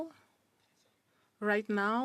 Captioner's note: speaking French